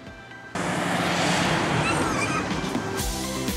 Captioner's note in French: cri marrant du singe